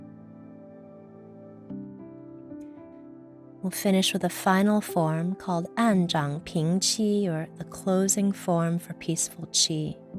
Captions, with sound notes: We'll finish with a final form called (speaks in foreign language) or a closing form for peaceful chi.